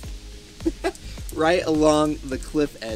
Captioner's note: chuckles